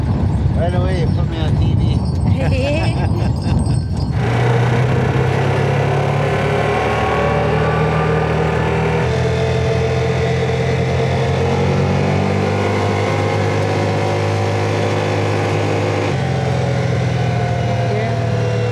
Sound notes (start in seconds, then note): 2.3 laughing; 4.2 loud vehicle engine